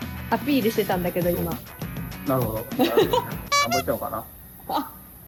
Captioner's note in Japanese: 笑い